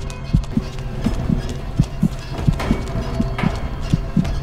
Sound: heart beating

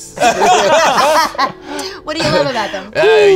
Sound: all laugh

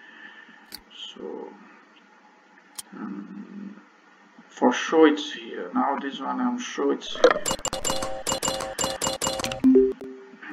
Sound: click

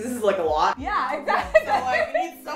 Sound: laughs

